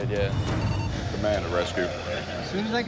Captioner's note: radio chirps